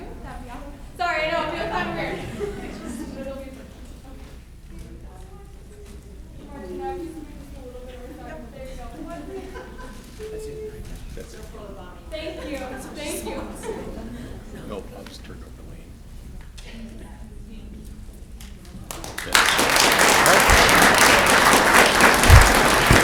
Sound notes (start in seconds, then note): 5.4 speaking faintly; 18.7 audience clapping